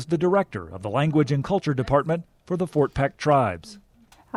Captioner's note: speaking in non-English